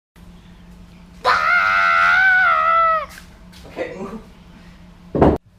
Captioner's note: girl playfully yells